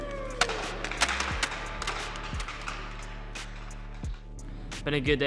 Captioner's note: hock sticks slamming